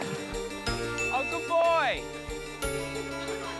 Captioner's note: ding!